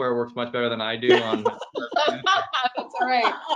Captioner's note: laughing